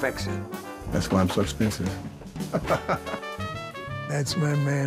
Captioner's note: laughing